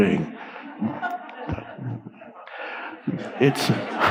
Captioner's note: audience laughing